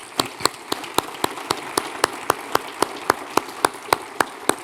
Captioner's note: audience applauding